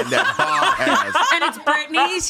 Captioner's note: everyone laughs